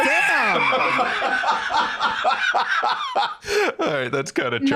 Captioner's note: laughing